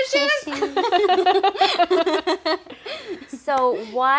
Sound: laughing

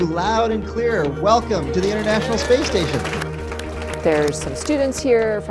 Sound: applause

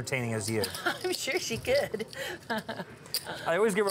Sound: laughs

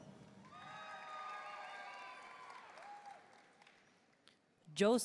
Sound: audience cheering and applauding

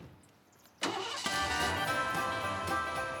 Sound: door opening & closing; engine starting; cassette playing

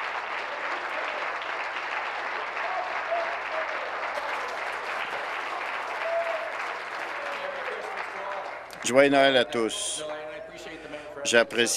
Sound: applause

